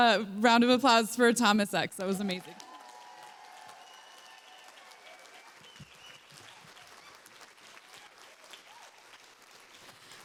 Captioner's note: applause